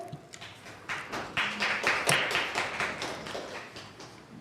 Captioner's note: applause